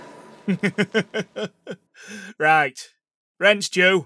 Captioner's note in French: rire